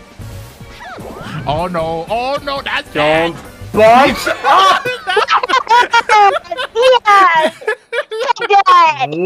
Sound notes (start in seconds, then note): 4.0 laughing